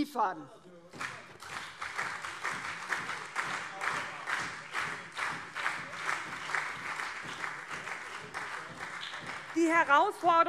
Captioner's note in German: Beifall SPD und CDU - Zurufe BÜNDNIS 90/DIE GRÜNEN